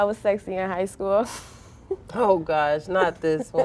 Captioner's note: girls laughing